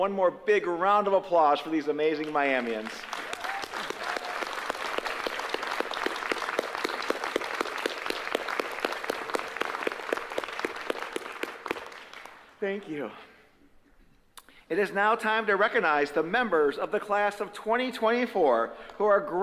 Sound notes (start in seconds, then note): 6.0 applause